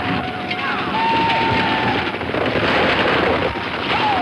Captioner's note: gun firing